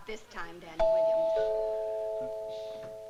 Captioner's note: door bell